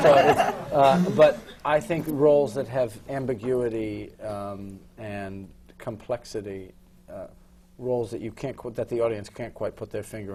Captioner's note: laughter